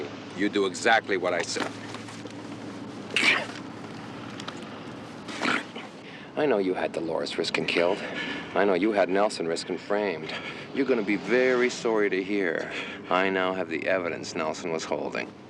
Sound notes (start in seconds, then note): 2.7 chokes